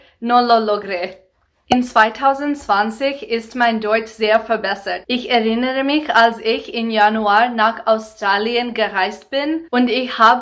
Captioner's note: in German